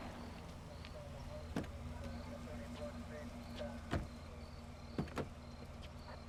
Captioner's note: officer chattering on radio